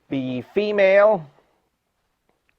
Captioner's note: none